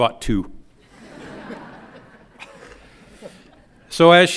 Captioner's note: audience laughs